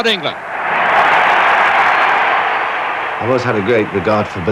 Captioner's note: crowd roaring